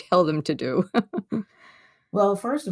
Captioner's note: laughs